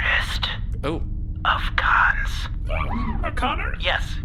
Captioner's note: whispering; whispering